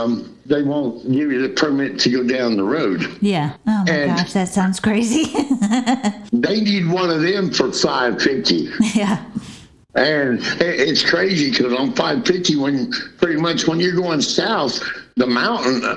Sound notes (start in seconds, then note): 5.2 laughter